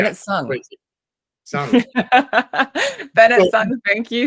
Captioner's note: laughs